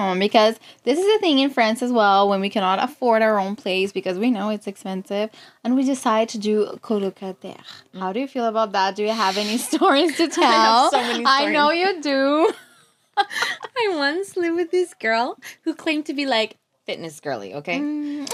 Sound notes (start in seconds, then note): 9.6 laughs; 13.2 laughs